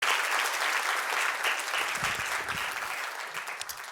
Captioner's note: audience applauding